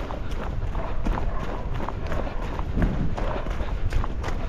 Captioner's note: dogs barking; feet stepping; feet stepping quickly